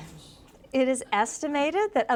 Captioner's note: none